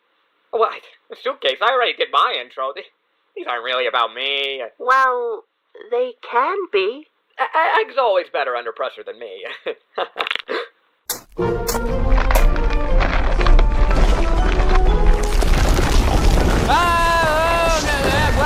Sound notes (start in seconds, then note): 9.5 chuckling; 10.5 gasp; 11.6 crack; 11.7 rumbling